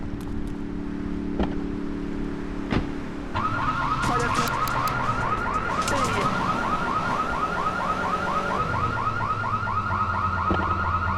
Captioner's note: sirens wailing